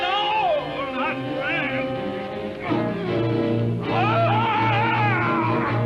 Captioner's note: screaming